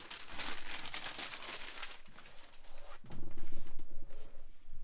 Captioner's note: paper rustling